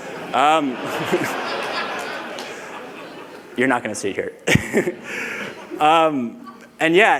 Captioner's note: laughter